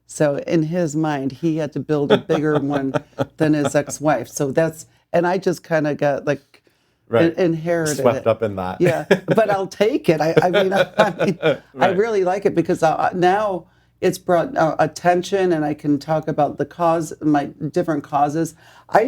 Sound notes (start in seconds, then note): 2.1 laughing; 10.1 laughing